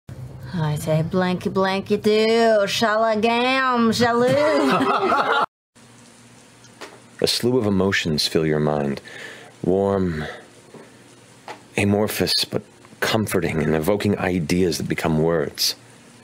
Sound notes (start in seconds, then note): 4.1 laughing